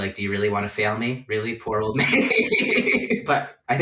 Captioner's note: laughs